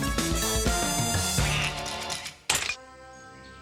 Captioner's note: quacks